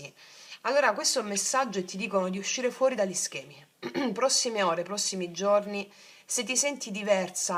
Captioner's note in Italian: schiarire la voce